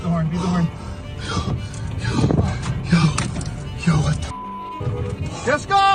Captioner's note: heavy panting